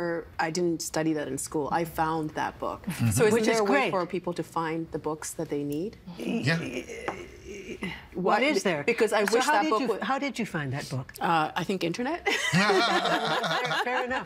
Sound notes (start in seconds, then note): 6.3 stammering; 12.4 laughing